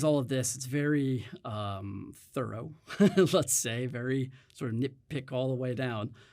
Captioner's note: chuckles